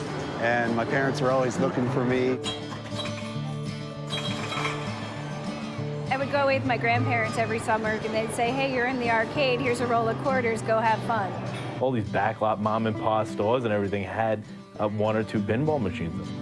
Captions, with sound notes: and my parents were always looking for me. [pinball machine bells] I would go with my grandparents every summer and they'd say, "Hey, you're in the arcade here's a roll of quarters, go have fun." All these back lot mom and pa stores and everything had one or two pinball machines in them